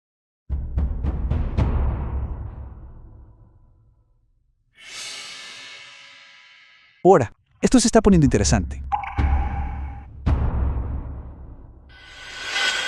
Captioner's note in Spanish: resoplido